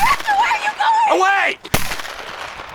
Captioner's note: gunshots in background